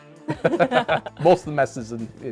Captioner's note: laughing